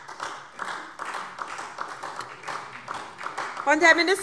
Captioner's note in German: Beifall SPD